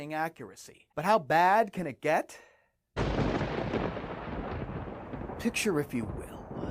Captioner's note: Immitating Rod Serling on "The Twilight Zone"